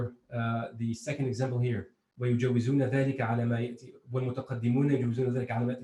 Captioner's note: speaking in foreign